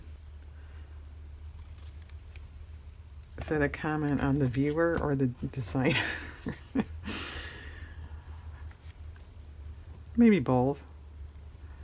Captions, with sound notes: is that a comment on the viewer or the designer? (laughs) maybe both